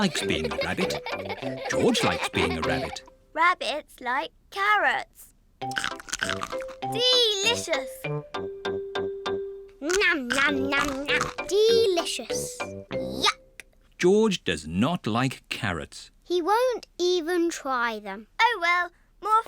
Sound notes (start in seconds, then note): 0.0 all giggle; 5.7 crunches; 9.9 crunches